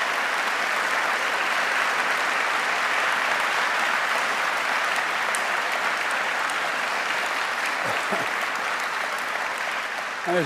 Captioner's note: applause